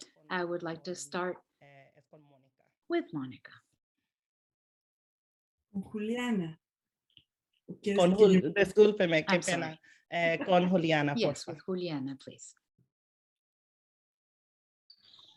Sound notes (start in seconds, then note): 8.0 speaking spanish